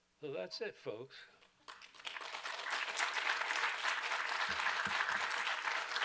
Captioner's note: applause